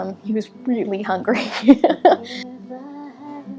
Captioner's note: laughs